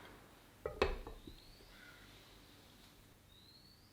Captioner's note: hot boiling water